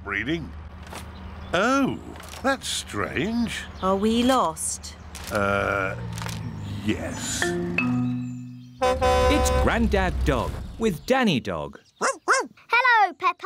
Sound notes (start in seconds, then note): 8.7 horn honks; 12.0 barking